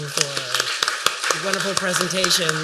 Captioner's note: applause